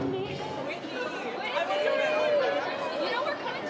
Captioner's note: crowd chattering